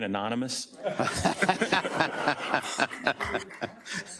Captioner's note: members laughs